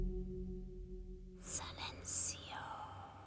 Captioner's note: whispering